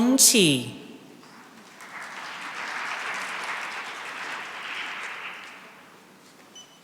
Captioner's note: applause